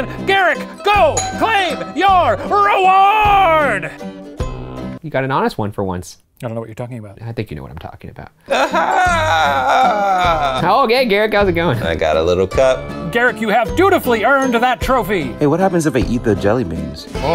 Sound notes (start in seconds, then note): 8.4 laughing